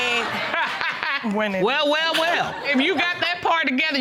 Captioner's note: laughing